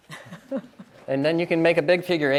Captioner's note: chuckles